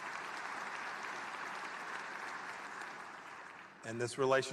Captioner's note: applause